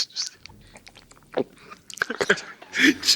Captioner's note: gulping sound